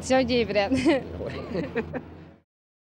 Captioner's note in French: rire